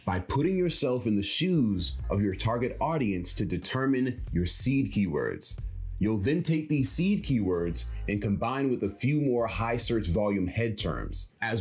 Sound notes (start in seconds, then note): none